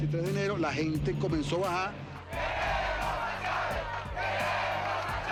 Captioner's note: chanting in Spanish